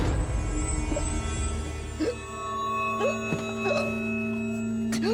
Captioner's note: gasping for air